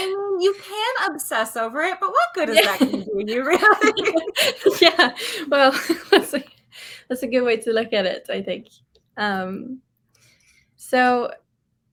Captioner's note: laughs